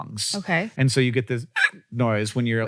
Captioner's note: Hank mimics hiccup sound